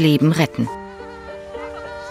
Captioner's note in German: Freudiges Jauchzen